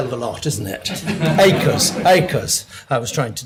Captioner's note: audience laughing